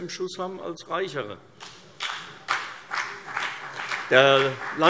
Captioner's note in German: Vereinzelter Beifall CDU und BÜNDNIS 90/DIE GRÜNEN